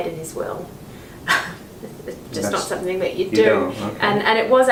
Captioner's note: chuckles